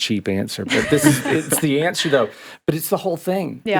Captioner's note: podcasters chuckling